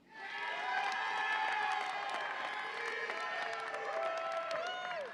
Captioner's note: audience applauds and cheers